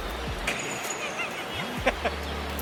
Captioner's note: laughter